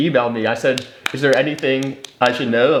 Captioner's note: clapping